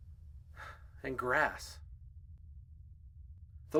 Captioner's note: sighs